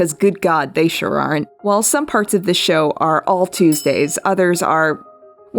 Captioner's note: bell Dings